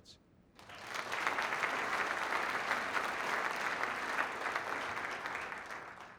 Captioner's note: applause